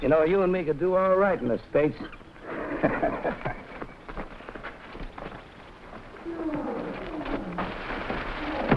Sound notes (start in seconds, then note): 2.5 Hurst laughing; 3.9 animals groaning; 4.1 plants rustling; 8.1 animals chirping; 8.1 gorilla grunting